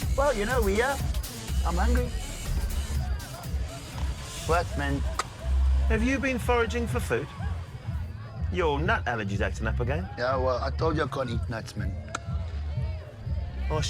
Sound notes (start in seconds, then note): 4.8 clicks tongue